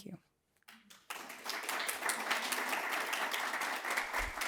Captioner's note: audience applauds